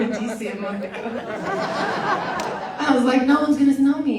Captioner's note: audience laughs